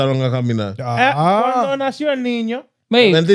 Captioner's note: speaking In Foreign Language